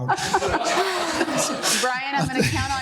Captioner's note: laughing